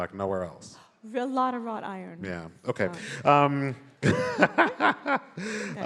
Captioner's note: laughs